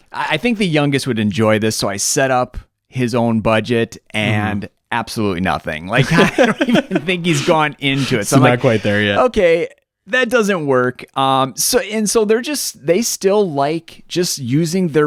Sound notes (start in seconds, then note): 6.0 both laugh